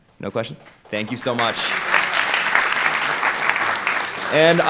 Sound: audience applause

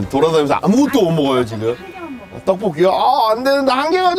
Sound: whispering

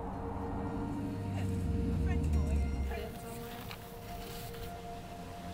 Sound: soft music; wind howling; both chattering

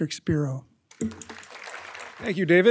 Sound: audience clapping

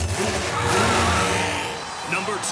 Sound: engine revving

